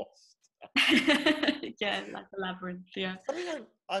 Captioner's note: laughs